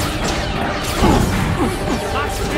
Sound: slams floor

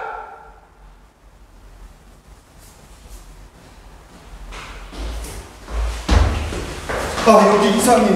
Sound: all of a sudden, screams

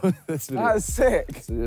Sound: laughs

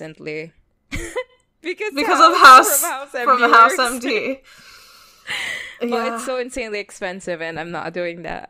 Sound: laughing

